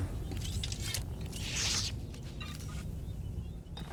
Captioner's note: gunshots